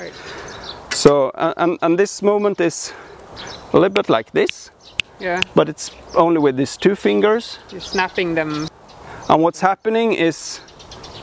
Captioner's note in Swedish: knäpper fingrar